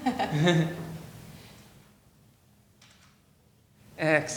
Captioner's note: laughing